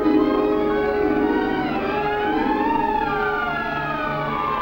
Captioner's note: siren wailing